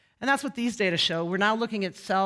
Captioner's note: none